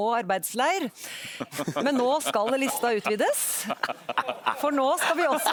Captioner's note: raucous laughter in the panel and in the audience